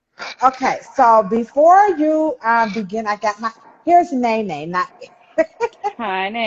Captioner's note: laughs